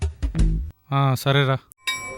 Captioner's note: railway station bells